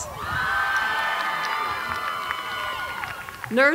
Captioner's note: applause